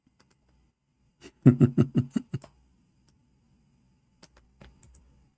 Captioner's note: Ketawa